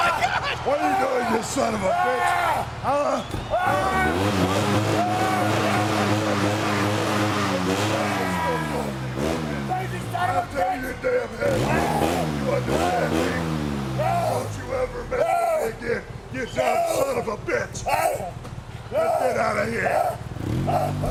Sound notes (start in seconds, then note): 4.1 ATV engine roaring; 4.1 Vince screaming; 17.8 Vince screaming